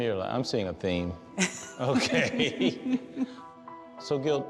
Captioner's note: laughing; laughs